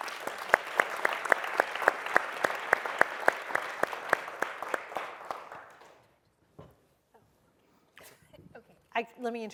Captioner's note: applause